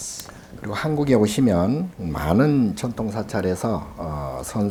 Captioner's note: speaking Korean